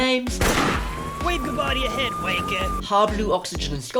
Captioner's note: gunshot